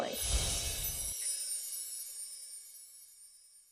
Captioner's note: chimes ringing